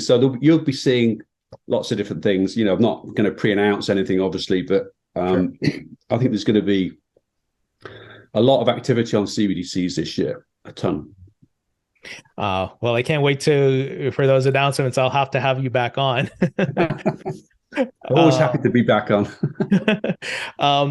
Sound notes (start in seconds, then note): 16.1 speakers laughing